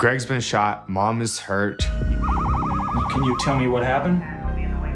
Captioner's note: siren wailing